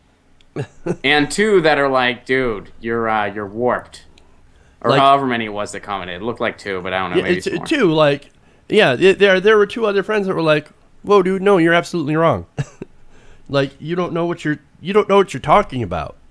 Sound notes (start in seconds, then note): 12.1 laughs